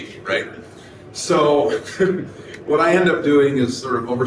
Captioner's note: laughs